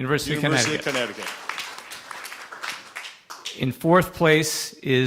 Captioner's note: applause